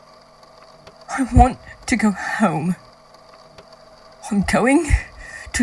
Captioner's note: unsteady breathing